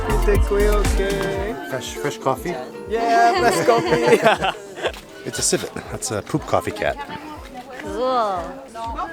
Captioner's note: laughing